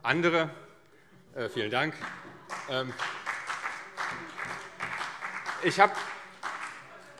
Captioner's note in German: Heiterkeit und Beifall CDU und BÜNDNIS 90/DIE GRÜNEN